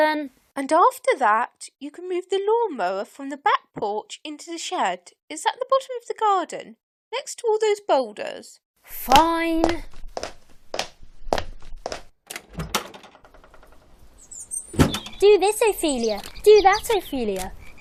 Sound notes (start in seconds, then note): 11.2 walking on tiles; 12.2 door opens and closes